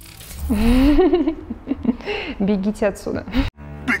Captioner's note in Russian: смеется